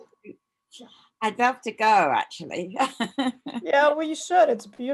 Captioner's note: laughs